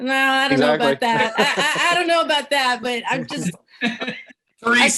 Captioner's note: chuckling